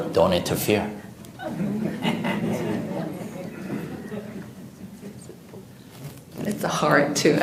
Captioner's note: audience Laughter